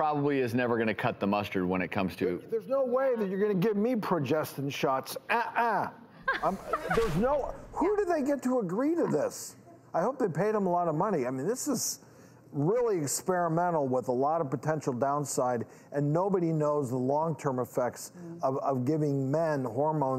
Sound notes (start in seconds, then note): 6.2 laughs